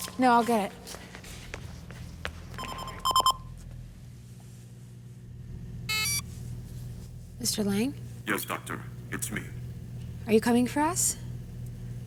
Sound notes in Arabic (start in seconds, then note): 2.7 يستمر الرنين; 5.9 صفير vpn